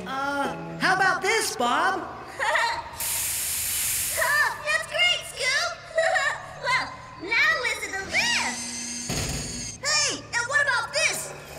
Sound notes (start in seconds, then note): 2.9 pistons Hissing; 6.0 laughing; 9.1 loud Thud!